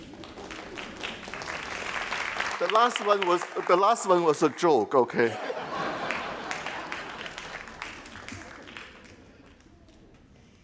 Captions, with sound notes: (crowd applauding) The last one was a joke, okay? (crowd laughing)